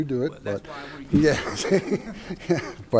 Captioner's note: laughs